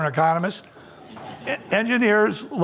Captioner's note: laughter